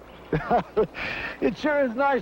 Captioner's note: Noonan laughs